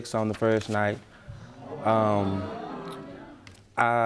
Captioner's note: audience murmuring